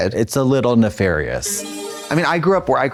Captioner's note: bright chime